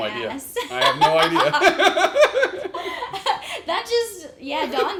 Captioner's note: laughs